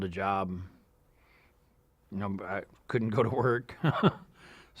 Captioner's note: chuckles